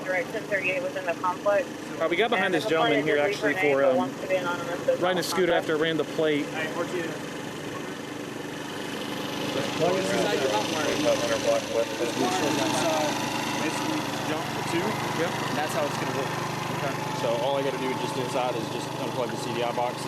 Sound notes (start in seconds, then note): 6.8 engine whirring; 6.8 officers chattering